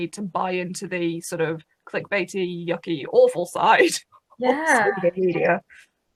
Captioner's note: laughs